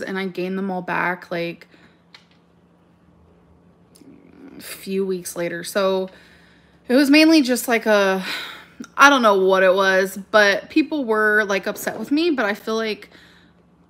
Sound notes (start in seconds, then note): 8.5 sighs